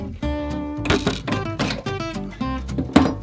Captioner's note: clanging; upbeat jazz music continues